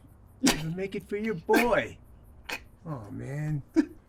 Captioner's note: Mike sobbing